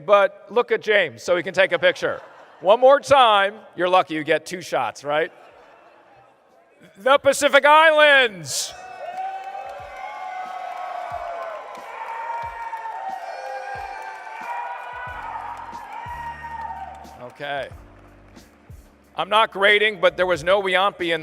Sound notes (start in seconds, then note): 1.6 laughter; 5.2 laughter; 10.4 cheering and applause